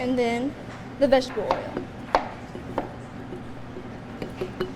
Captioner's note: object thuds